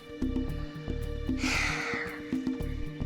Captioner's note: sighs